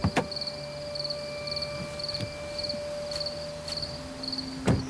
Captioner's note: insects chirping; door closes